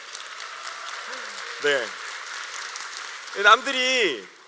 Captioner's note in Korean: 박수